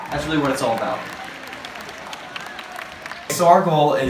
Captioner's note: applause